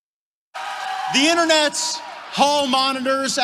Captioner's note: applause